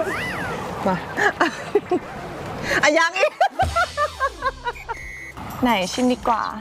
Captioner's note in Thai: เสียงหัวเราะ